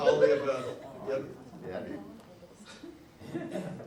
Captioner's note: audience laughs